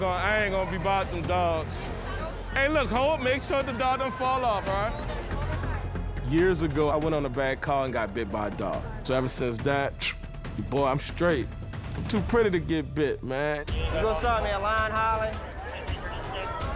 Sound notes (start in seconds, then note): 10.0 whistles